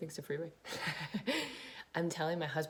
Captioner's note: chuckles